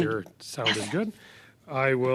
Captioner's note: speaking French